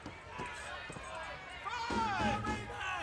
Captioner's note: crowd chatter